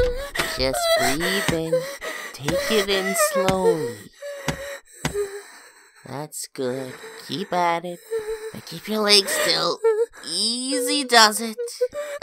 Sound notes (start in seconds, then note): 4.7 slows breathing down